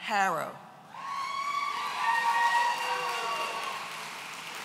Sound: audience cheering

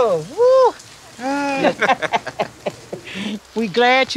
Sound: both laugh

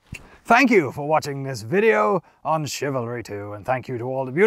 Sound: knightly voice

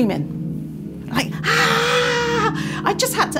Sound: screams

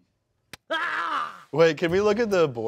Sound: screams

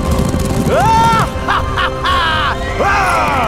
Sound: laughs

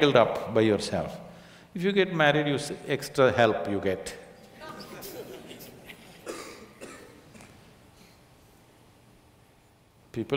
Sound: laughter

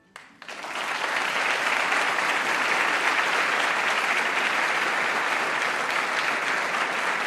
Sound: applause

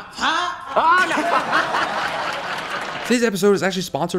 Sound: crowd laughing

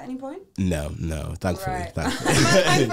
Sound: laughing; laughs

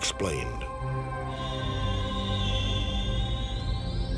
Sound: mysterious sound; police sirens

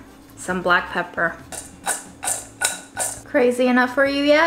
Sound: food mix rattling

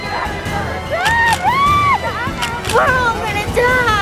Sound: screaming

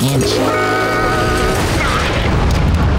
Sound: thudding

